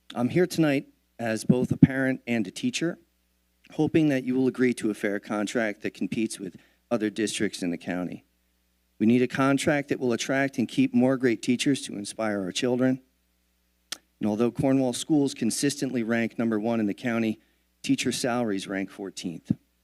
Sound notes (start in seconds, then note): none